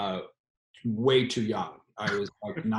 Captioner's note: laughs